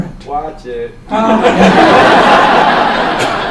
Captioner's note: laughs